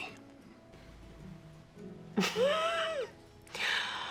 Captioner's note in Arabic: يضحك